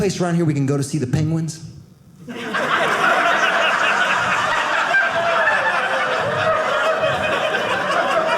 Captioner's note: audience laughing